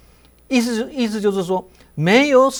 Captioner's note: in Mandarin